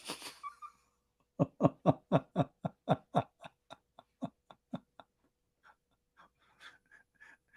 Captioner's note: Ketawa